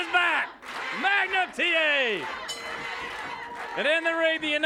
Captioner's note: bell dings